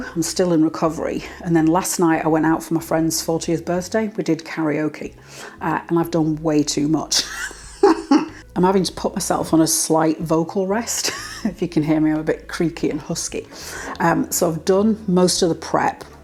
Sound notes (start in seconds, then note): 7.2 laugh